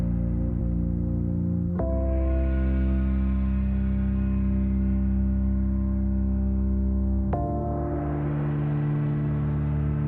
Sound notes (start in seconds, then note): none